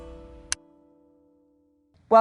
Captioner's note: light switch clicks